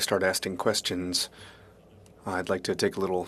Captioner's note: speaking French